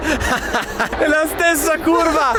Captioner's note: laughter